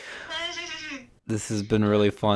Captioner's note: laughs